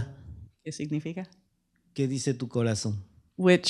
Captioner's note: speaking spanish